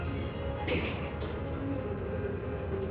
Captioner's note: gunfire blasting; suspenseful music